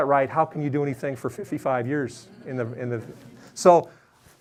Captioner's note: audience laughing